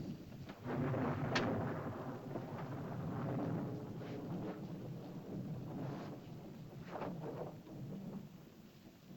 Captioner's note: thunder rumbles softly